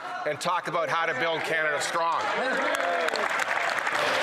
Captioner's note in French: voix de l'interprète